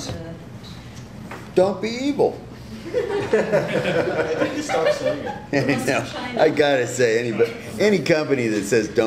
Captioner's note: laughter